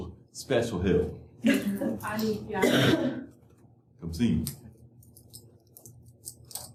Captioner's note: laughter